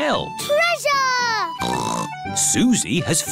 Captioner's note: snorts